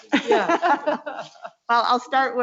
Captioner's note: laughs